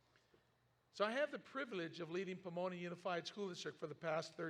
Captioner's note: none